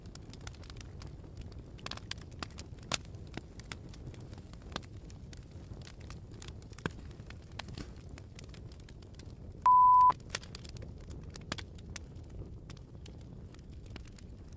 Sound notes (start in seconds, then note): 9.6 beeping